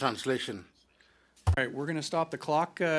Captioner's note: speaking in French